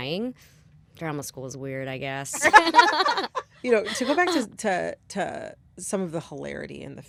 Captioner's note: laughter